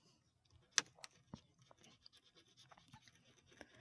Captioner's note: scratching